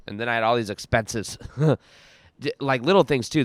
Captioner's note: chuckling